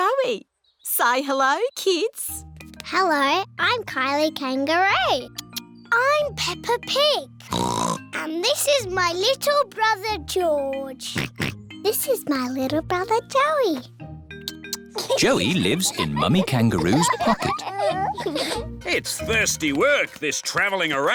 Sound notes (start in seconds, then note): 7.5 oinks; 11.1 oinks